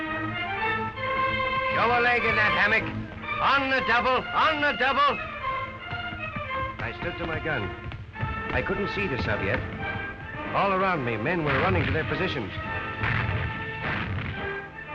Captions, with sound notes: - [Voiceover] Lower leg in the hammock. On the double, on the double! I stood to my gun, I couldn't see the sub yet. All around me, men were running to their positions.